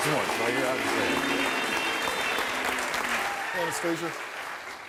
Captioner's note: audience clapping